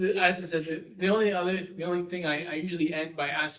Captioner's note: laughing